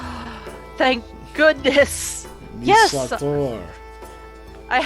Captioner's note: gasping